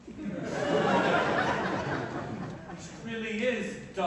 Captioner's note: laughter